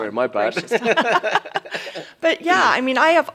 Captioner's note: laugh